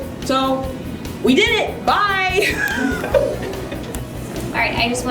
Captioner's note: laughter